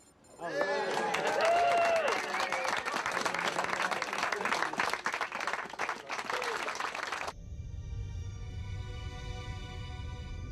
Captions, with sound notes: didn't go the way we expected. Instead, it was perfect. (navigators cheering)